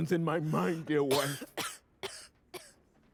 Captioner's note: coughing